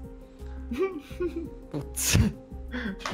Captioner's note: laughter